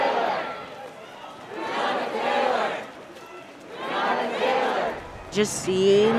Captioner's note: chanting